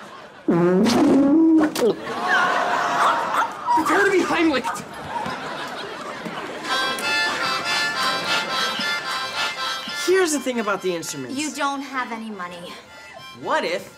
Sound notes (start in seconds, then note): 1.9 choking; 6.6 harmonica playing